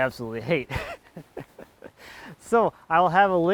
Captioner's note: laughing